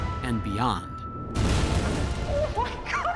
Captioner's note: explosions